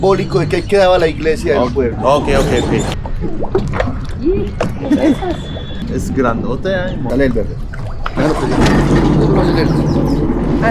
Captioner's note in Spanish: risas